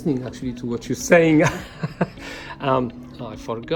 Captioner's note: laughs